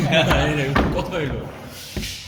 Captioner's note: laughter